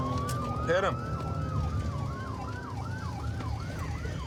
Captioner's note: sirens wailing